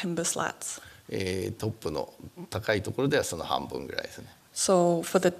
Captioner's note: speaking japanese